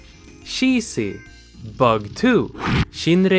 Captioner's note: slam!